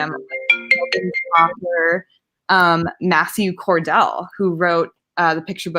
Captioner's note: phone ringing